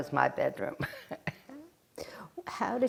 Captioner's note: laughing